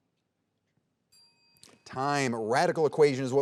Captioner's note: bell ringing